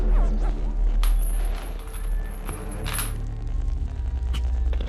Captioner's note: static crackling; chain rattling; static crackling